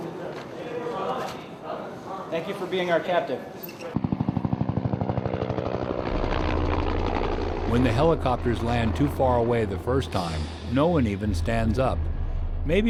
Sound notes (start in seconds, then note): 3.9 sound of helicopter flying overhead; 8.0 voiceover